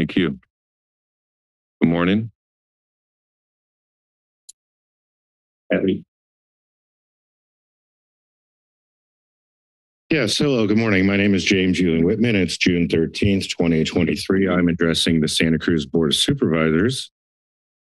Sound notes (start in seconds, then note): 2.5 silence